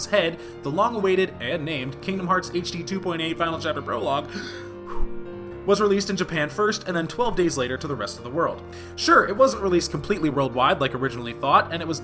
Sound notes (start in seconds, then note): 4.4 deep breath